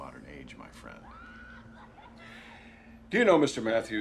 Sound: distant screaming

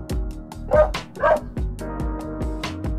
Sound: dog barks

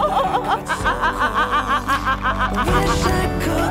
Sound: laughing and crying

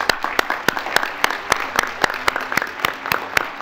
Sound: applause

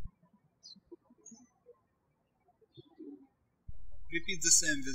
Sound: birds chirping

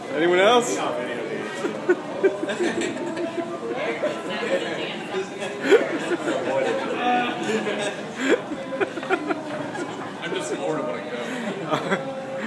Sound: giggling helplessly

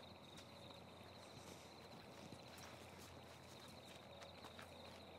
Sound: crickets chirping

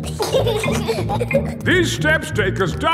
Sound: giggling

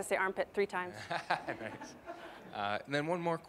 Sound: audience laughing

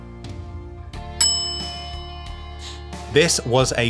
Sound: bell dings

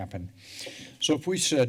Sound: breaths deeply

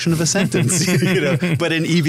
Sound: laughter

